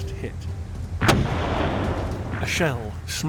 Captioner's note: projectiles fire